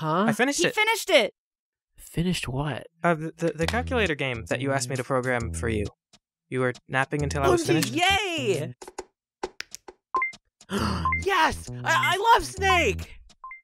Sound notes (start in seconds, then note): 10.7 gasp